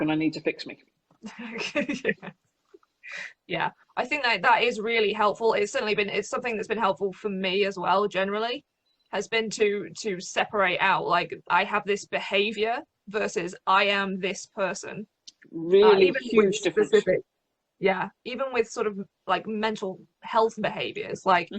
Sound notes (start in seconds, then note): 1.3 laughs